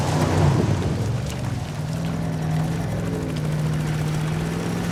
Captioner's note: engine rumbling